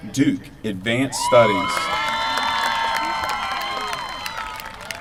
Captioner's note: applause